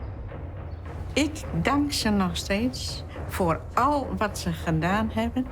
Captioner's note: speaking foreign language